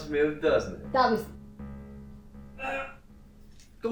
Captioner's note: man growls